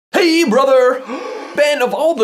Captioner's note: gasp